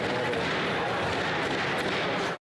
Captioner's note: chanting